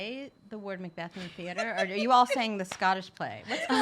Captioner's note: laughs